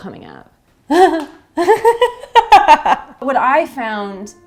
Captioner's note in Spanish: risas